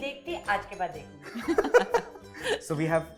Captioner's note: chuckles